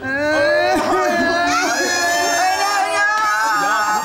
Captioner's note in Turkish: ağlama sesleri